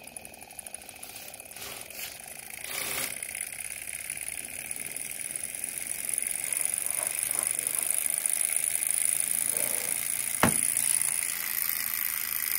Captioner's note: engine noises